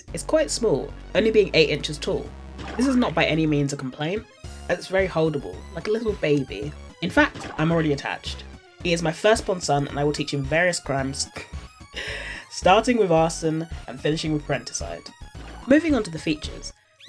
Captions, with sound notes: It's quite small, only being 8 inches tall. This is not by any means a complaint as it’s very holdable like a little baby, in fact I'm already attached. He is my first born son and I will teach him various crimes [Snickers] starting with arson and finishing with parenticide. Moving on to the features